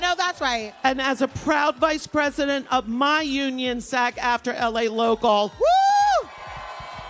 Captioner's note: applause